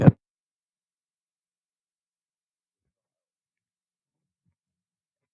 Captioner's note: long pause